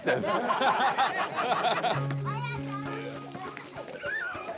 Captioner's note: crowd laughing